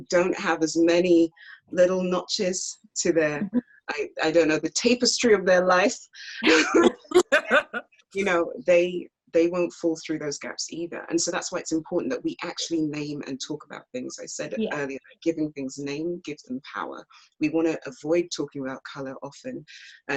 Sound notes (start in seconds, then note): 6.4 laughs